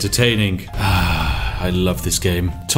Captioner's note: satisfied Sigh